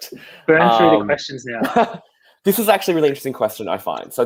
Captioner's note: murmuring